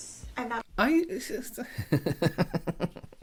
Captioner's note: stuttering; laughing